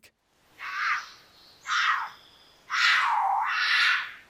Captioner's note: cougar screaming